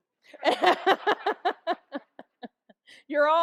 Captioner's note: all laugh